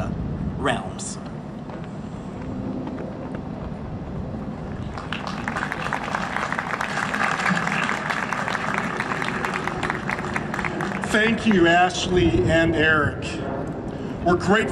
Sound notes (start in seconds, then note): 4.8 applause